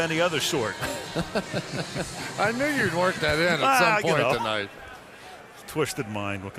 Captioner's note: laughs